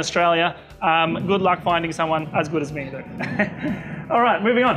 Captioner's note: laughing